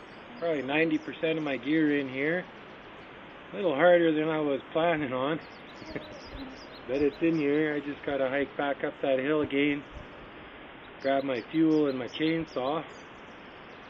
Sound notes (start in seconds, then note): 5.8 laughter